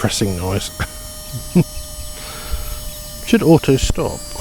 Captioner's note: laughs